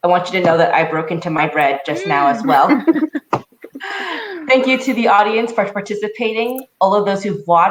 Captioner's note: laughter